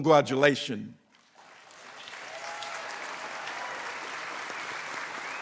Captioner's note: applause